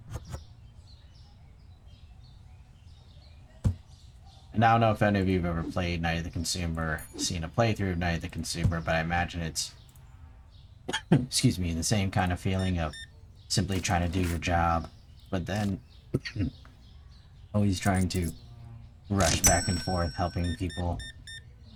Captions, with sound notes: And I don't know if any of you've ever played "Night of the Consumer," seen a playthrough of "Night of the Consumer," but I imagine it's, *sneezes* excuse me, the same kind of feeling of simply trying to do your job, But then, *sneezes*, always trying to rush back and forth helping people.